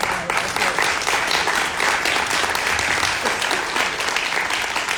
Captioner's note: audience applauding